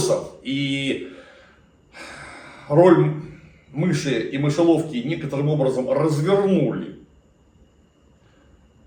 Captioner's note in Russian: вздыхает; тяжело вздыхает